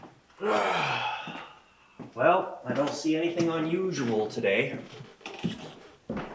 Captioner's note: sighs